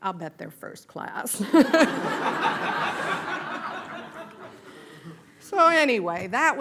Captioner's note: laughter